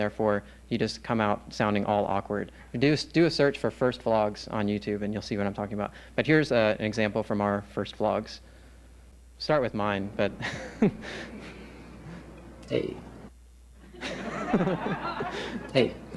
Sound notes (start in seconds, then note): 10.4 laughs; 13.8 laughter